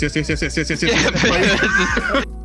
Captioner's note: laughs